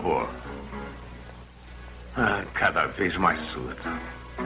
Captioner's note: chuckles